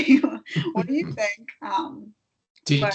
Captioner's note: laughing